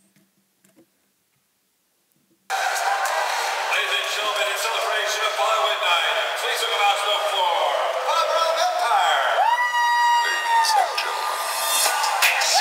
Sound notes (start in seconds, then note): 2.8 crowd cheering; 8.6 crowd cheering; 10.2 upbeat music plays